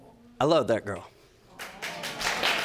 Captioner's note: audience applauding